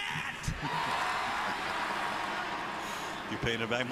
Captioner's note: cheering